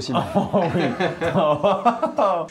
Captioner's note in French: rigolant